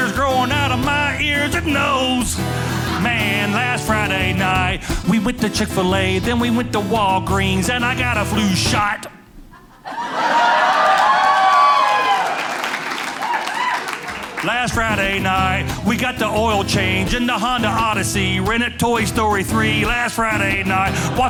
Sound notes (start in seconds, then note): 9.9 audience cheering